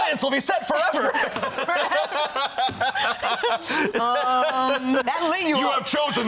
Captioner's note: all laughing